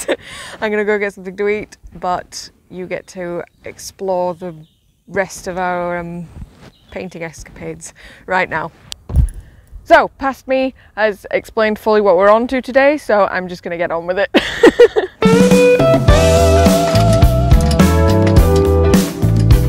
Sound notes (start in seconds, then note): 14.4 laughs